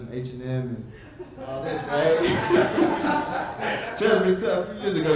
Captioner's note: audience laughs